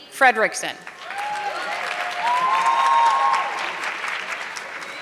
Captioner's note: audience clapping